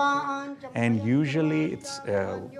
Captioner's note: chanting